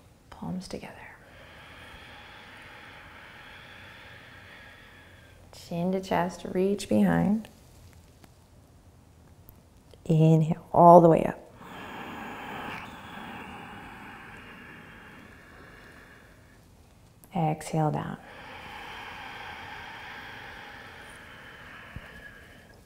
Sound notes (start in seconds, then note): 1.1 exhaling; 11.5 inhaling; 18.1 exhaling